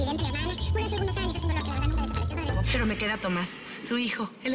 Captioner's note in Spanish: Voz aguda; Habla a alta velocidad